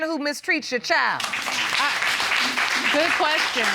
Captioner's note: applause